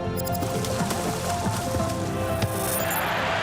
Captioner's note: water splashing; cheering